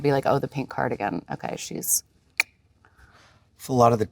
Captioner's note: tongue clicking